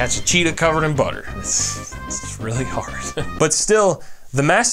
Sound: chuckles

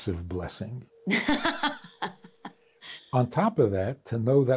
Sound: laughs

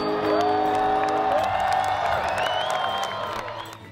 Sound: cheering and applause

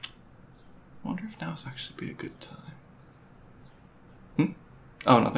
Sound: quietly

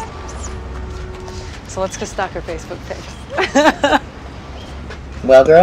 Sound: laugh

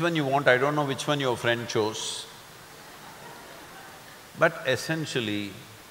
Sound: few laugh

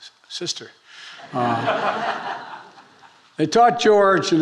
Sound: attendees laughing

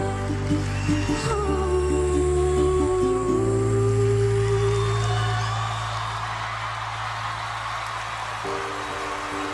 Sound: audience cheers wildly

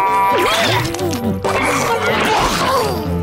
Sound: gagging

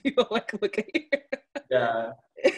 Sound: chuckles

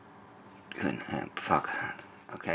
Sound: stammering

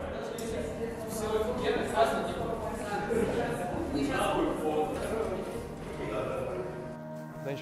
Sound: off-screen chatter

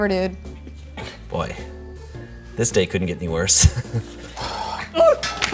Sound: chuckles

